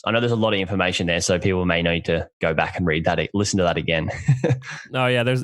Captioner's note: laughs